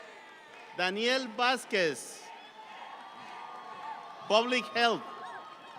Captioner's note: audience cheering